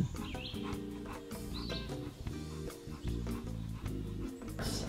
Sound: dogs panting

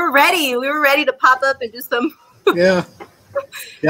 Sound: laughs

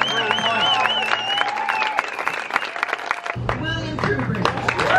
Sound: audience cheering and applauding

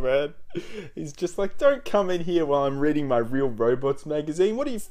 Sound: laughs; laugh

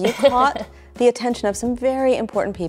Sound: laughs

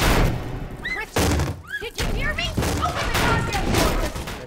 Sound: Vecna banging on door

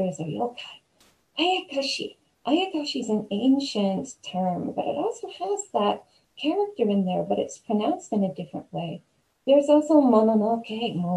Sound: spooky voice

